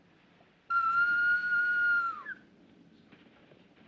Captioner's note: Apito